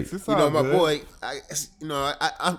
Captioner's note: murmurs